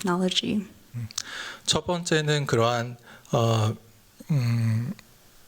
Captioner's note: speaking japanese